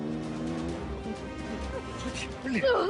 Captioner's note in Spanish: Sonido del motor